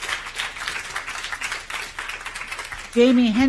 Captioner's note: applause